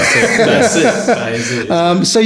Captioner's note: laughing